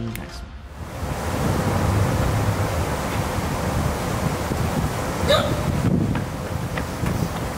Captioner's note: wind gushing; water rushing